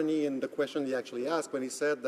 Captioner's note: speaking French